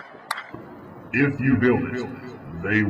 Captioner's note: deep voice with echo